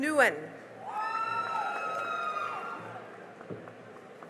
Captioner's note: cheering and applause